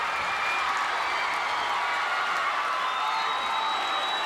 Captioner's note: crowd cheers